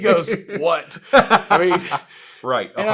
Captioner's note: laughs